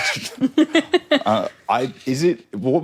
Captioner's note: giggles